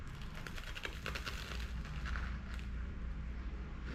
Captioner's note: the sound of stones being chewed